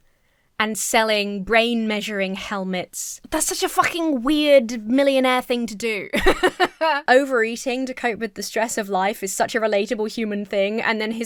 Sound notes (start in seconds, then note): 6.1 laughs